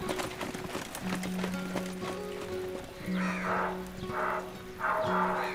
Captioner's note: dog barking; man shouting in native language